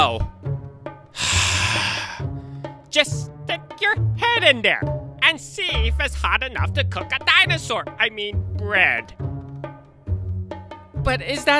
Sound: sigh

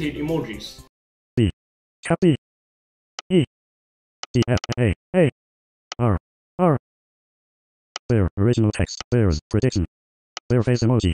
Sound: voiceover speaking

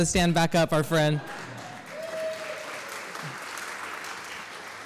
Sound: audience clapping and hooting

